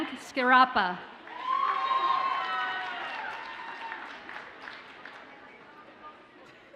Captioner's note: audience cheers and applauds